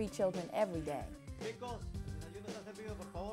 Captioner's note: foreign audio